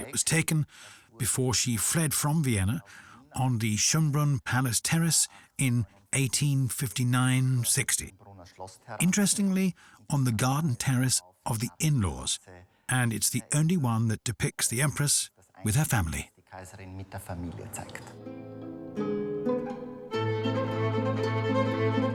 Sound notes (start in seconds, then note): 16.6 speaks in foreign language; 18.3 dramatic classical music